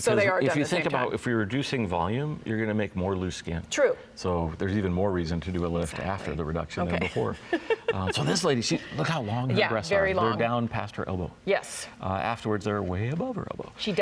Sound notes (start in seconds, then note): 7.4 laughs